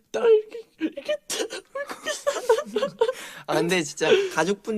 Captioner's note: mimics crying sound